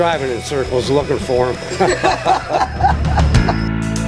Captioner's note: people laughing; lighthearted rhythmic music